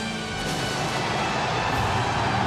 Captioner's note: audience cheers; pyro bangs